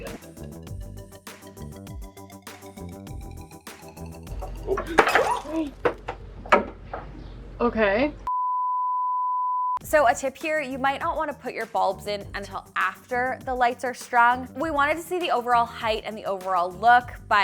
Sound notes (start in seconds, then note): 4.4 glass shattering